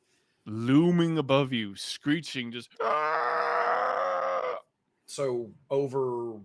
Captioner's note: screeches